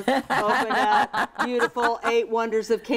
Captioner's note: laughs